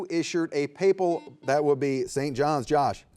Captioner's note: buzzer beeps